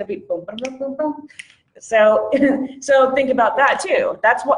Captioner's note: snaps fingers